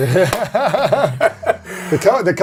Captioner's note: laughs